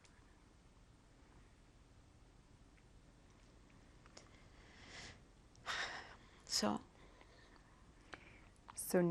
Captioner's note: pauses for 6 seconds